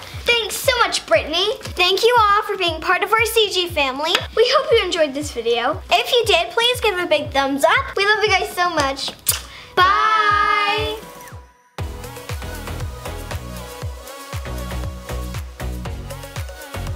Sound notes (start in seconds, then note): 9.2 kissing; 9.5 upbeat music